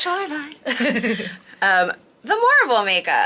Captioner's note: laughing